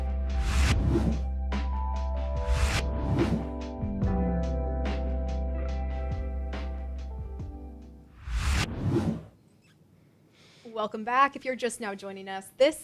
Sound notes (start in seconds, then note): 0.0 gentle music; 0.4 logo whooshing; 8.1 logo whooshing